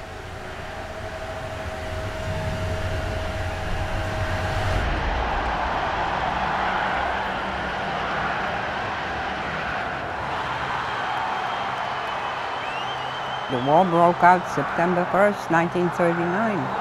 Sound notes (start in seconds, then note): 2.8 crowd cheering; 2.8 dramatic music